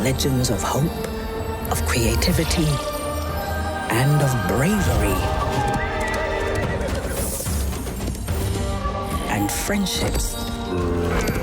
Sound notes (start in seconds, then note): 8.2 horse galloping and neighing